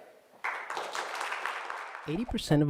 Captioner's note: applause